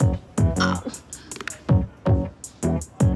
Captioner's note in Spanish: Quejidos